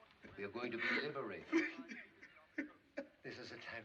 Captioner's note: sobbing Continues